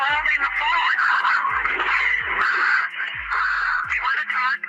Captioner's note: breathing